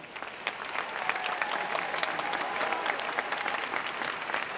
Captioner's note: audience applauding